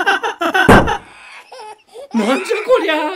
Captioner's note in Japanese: 不思議な笑い; 破裂音